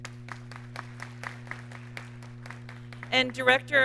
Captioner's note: audience clapping